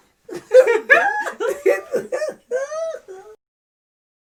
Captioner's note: laughing in unison